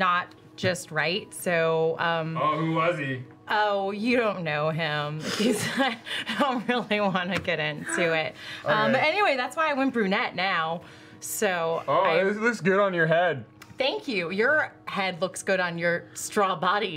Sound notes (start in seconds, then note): 5.6 laughs